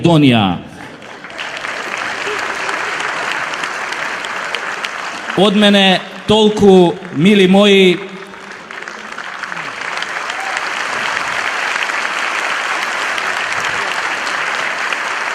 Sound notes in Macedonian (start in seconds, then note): 0.8 аплауз